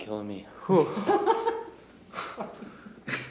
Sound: laughs

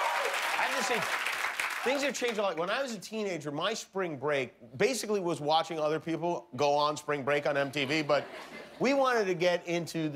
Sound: cheers and applause

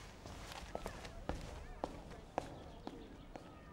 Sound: footsteps passing

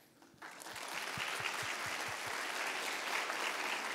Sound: applause

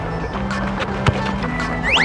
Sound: kick

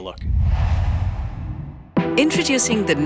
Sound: logo swooshes; energetic music plays

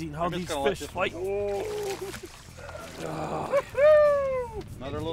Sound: grunting

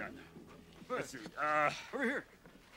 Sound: sighs

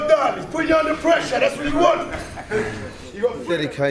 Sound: laughing

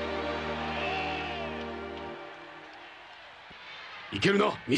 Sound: applause

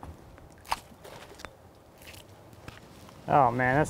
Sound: water splashing

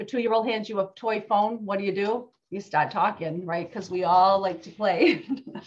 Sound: laughs

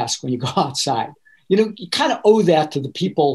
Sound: laughing

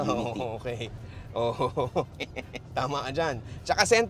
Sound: laughs

